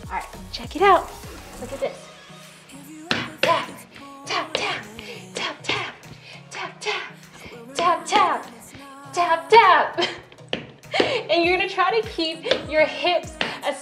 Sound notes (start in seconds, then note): 3.1 hand tapping; 9.6 laughing; 10.3 hand tapping